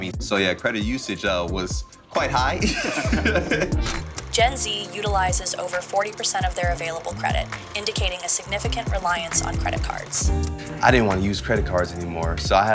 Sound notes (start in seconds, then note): 2.6 laughter